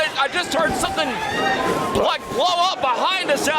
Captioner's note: audience cheers and gasps